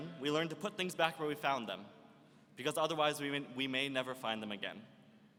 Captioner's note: none